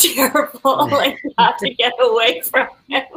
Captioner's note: laughing